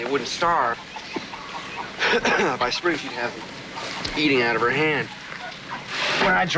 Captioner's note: coughs